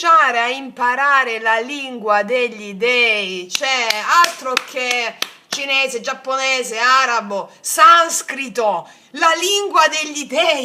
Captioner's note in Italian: applauso